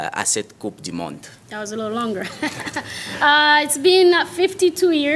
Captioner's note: laughter